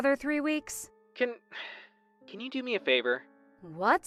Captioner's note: phone vo